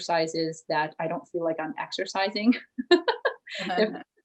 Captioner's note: chuckles